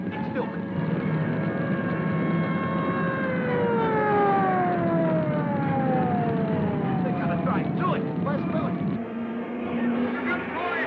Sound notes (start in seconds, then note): 2.1 flames roaring; 2.1 siren wailing